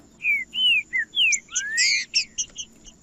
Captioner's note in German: trinca ferro cantando